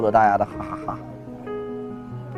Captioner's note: laugh out loud